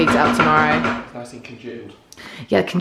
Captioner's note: jar tapping